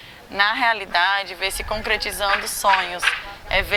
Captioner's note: hammering